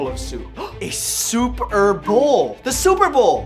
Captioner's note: gasp